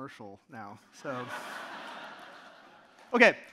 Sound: audience laughing

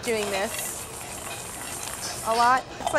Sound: candies grinding

